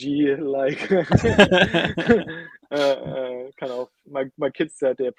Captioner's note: laughing